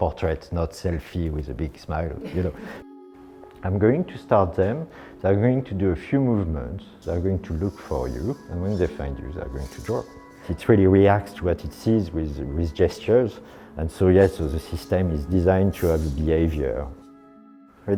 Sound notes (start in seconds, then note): 2.2 chuckles; 7.9 robots whirring